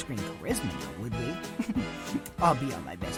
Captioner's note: giggle